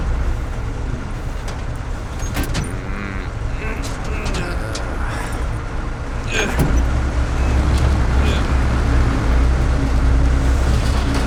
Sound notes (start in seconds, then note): 2.2 grunting